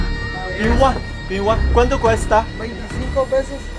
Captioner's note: Spanish